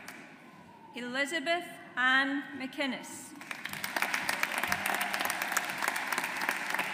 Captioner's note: audience applauds